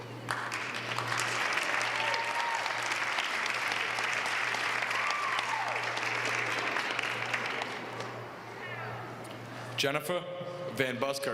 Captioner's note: applause